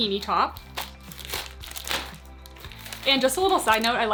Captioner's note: paper rustling